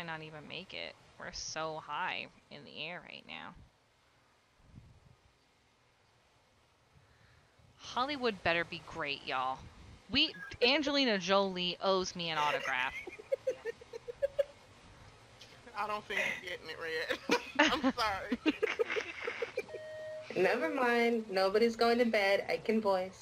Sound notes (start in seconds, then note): 17.0 laugh; 18.3 more laughter